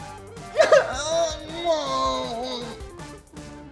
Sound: fake sobbing

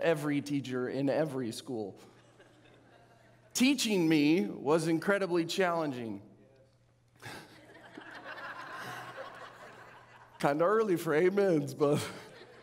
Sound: audience laughing

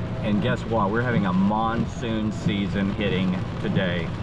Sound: none

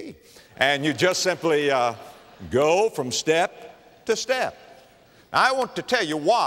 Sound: laughter

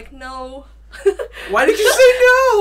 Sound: laughs

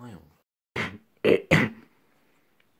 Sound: cough

